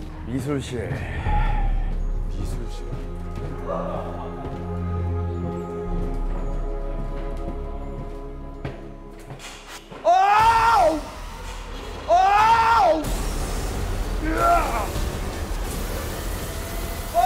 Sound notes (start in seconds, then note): 10.0 aghhhhhhhhh!!!!!